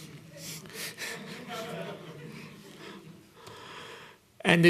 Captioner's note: laughter